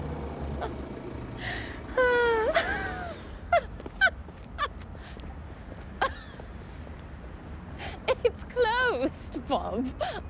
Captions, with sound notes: (Diana laughing) It's closed Bob.